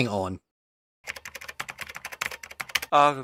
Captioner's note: typing